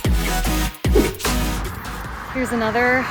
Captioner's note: image whooshes